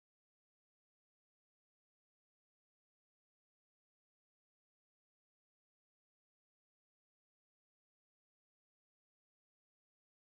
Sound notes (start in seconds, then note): none